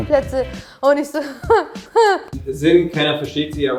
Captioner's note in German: verzweifeltes Lachen